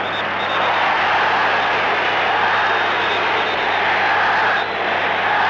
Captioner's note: crowd chanting and shouting